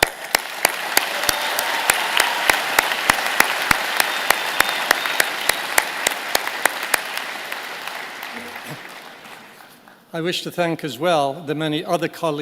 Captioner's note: applause